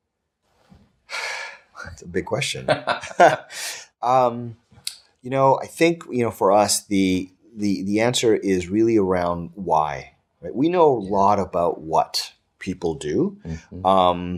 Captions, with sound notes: (sighing) - That's a big question. (laughing) You know, I think for us the answer is really around why. We know a lot about what people do on our site,